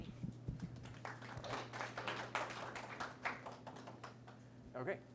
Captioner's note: audience applauds